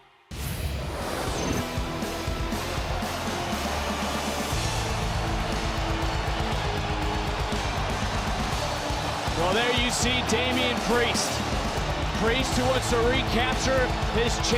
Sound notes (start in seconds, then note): 2.5 cheering